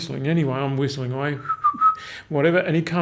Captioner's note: whistling